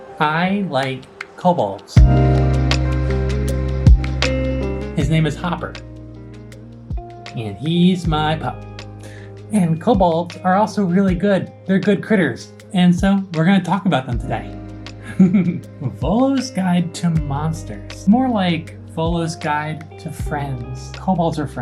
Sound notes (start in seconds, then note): 15.0 chuckles